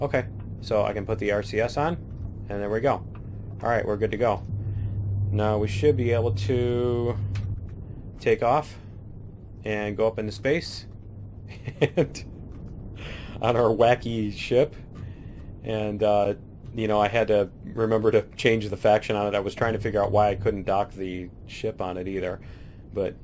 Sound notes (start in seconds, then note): 11.5 laughs